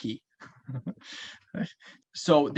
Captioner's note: laughs